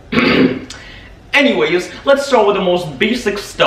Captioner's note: clears throat